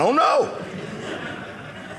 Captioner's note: audience laughing